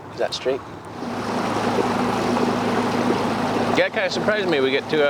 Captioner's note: motor humming